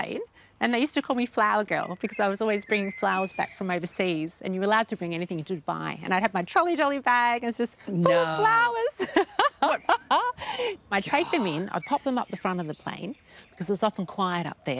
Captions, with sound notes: And they used to call me Flower Girl because I was always bringing flowers back from overseas and you were allowed to bring anything into Dubai. And I'd have my trolley dolly bag and it's just full of flowers! (LAUGHS) I'd take them in, I'd pop them up the front of the plane 'cause was often quiet up there,